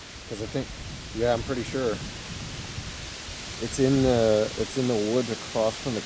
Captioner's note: leaves rustling